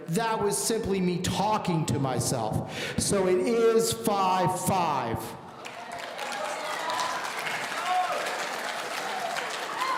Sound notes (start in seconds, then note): 5.5 audience applauding